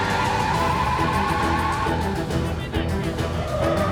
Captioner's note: tires screech